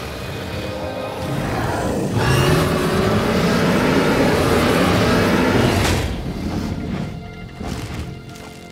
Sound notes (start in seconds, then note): 1.0 roaring